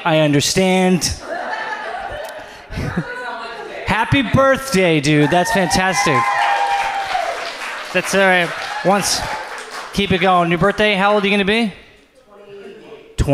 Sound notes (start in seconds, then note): 1.2 audience laughs; 5.1 audience cheers